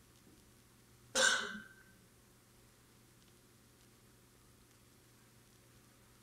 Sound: audience member coughing

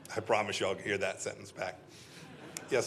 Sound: laughter

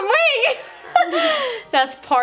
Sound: laughing

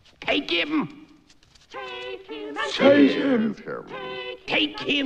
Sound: chanting

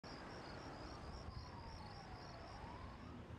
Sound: crickets chirping; police sirens wailing

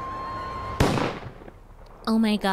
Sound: gunshot

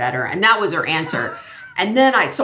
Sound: laughs

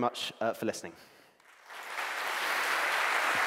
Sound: applause

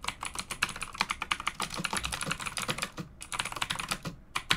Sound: keyboard clicks

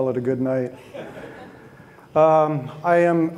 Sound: audience laughing

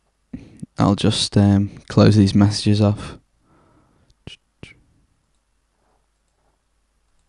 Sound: erm

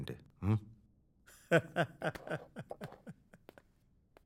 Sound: laughs

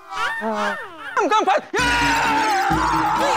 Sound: screaming

